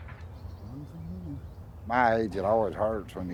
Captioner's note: hums